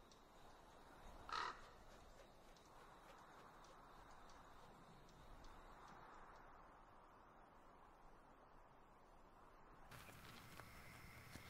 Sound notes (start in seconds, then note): 1.2 crow squawking